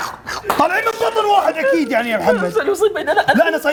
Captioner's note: sarcastically